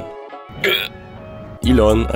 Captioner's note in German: Erstickter Laut